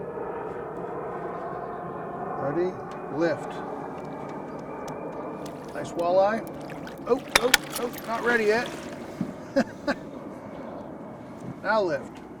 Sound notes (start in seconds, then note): 7.5 fish splashing; 9.8 chuckling